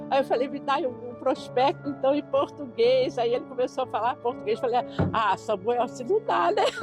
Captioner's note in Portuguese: risos